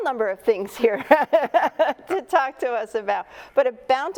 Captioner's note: chuckles